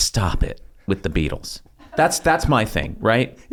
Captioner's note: laugh